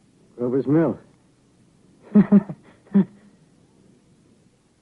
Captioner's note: laughter